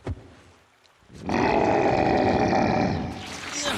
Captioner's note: roaring; grunting